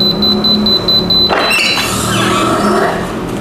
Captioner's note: beeping sound; press machine sound